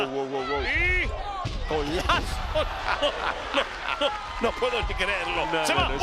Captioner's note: laugh